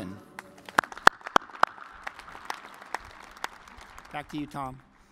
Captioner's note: applause